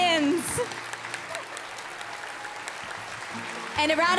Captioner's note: applause